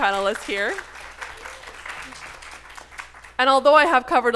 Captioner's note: audience applauding